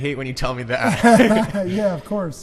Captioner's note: laughing